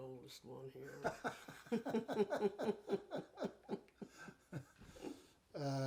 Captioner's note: chuckle